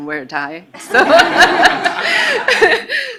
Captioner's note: laughing